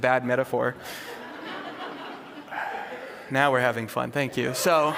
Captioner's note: laughter